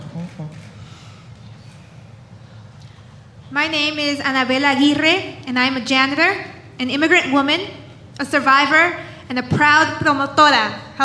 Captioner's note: speaking spanish